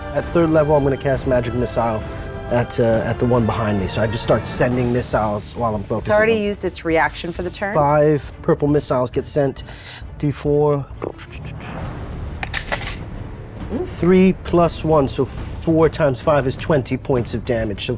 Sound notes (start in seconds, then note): 12.4 dice rattling